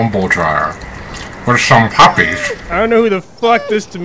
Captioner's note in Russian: чавкание